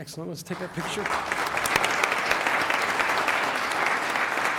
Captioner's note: applause